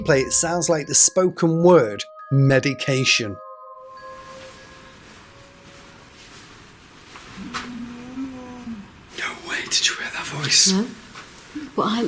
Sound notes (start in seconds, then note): 7.5 disembodied Voice